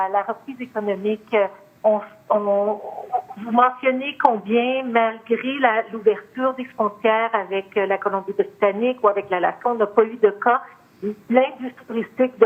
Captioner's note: speaking French